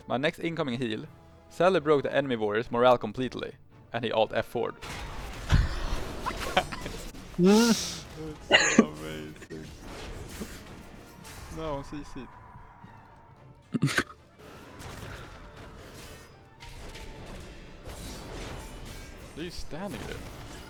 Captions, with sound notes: my next incoming heal Sadly broke the enemy warrior's morale completely and he alt F4 HAHAHA (hah) This is SOOO amazing No, I'm CCed. They are just standing there...